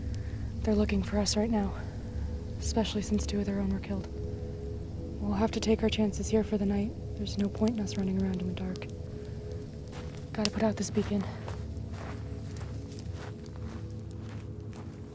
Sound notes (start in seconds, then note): 11.5 dirt pattering